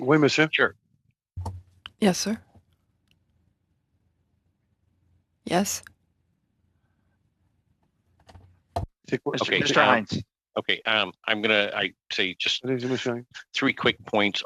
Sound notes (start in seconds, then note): 5.6 speaking French